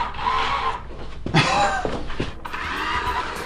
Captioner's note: laugh